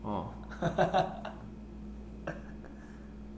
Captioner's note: haha